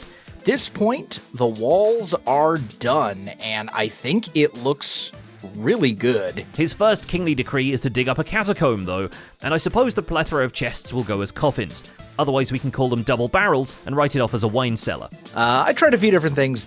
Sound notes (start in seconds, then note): none